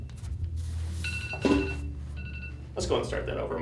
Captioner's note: phone ringing